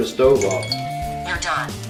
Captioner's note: electronic beep